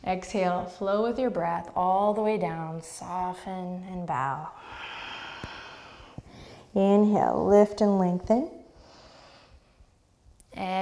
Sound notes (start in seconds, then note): 4.5 deep breath; 9.4 deep breath